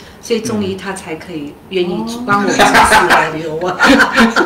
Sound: laughter

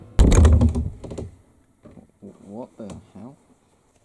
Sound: doors rattle

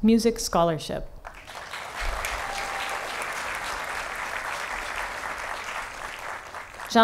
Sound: applause

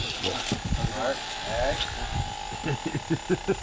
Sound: David chuckles

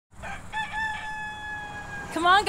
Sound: rooster crowing

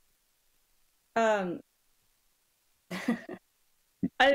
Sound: laughs

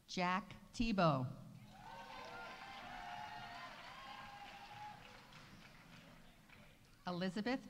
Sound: audience cheering; audience applauding

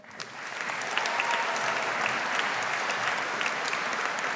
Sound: audience applauds

